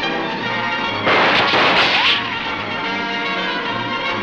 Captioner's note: gun banging; suspenseful music